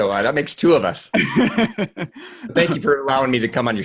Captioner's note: laughing